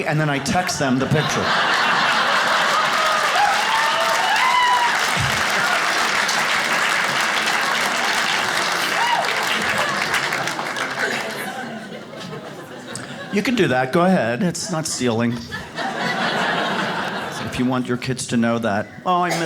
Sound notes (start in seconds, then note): 1.2 audience cheers